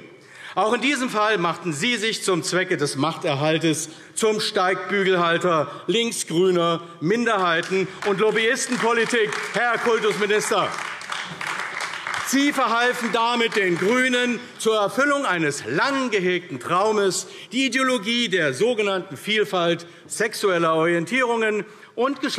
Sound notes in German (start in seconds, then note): 10.4 Beifall AfD